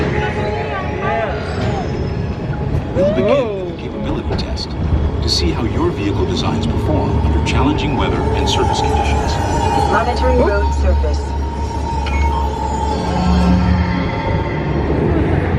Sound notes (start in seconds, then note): 12.3 machine beeps